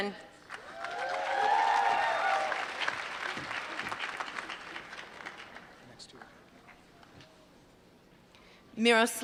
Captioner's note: applause